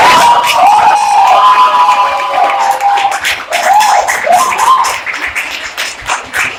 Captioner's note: audience Hooting